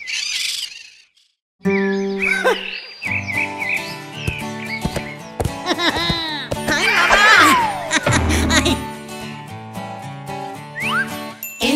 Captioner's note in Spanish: Sonido de guitarra; Risas